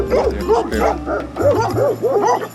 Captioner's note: barking at us